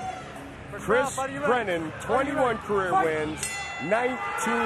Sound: bell dings

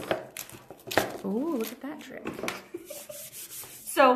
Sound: laughs

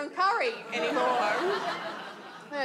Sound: audience laughs

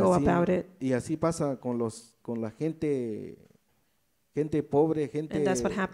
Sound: speaks in foreign language

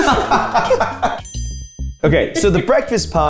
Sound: all laughing; bell dings

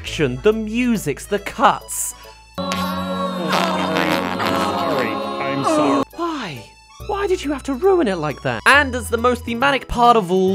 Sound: farts

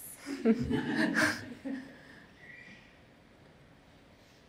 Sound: laughter

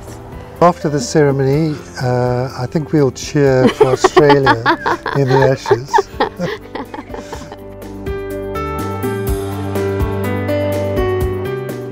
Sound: laughing

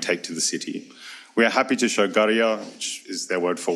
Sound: speaks foreign language

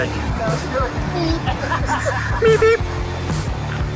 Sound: murmurs

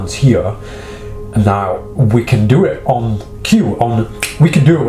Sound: snaps fingers

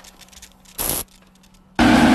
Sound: bzzt

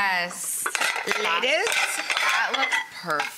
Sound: plates clanking

